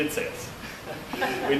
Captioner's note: laughter